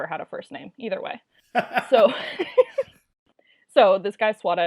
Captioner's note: laughs